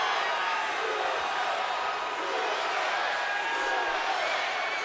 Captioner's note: crowd chants "USA"